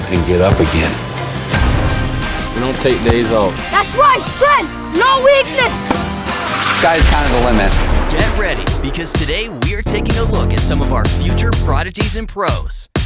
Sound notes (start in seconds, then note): 5.4 tennis ball slams; 5.8 upbeat music continues; 12.8 lively drum music